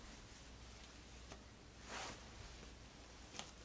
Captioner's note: fabric ASMR